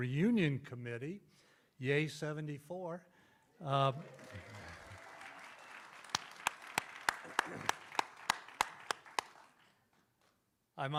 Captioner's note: clapping and cheering